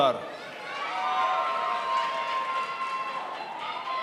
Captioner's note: crowd applauds